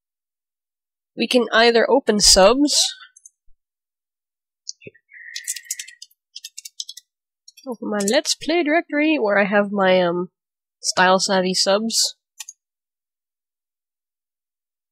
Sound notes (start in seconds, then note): 4.5 clicky noises